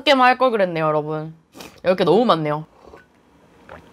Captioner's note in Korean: 훌쩍